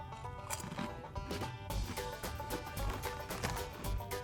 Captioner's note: chip crunching